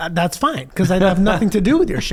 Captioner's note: laughs